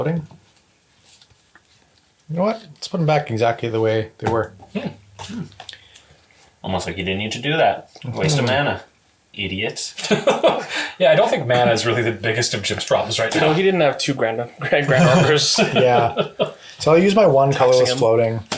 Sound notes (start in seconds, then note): 10.0 laughs